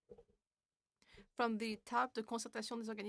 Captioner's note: speaking French